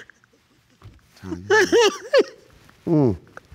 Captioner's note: continues crying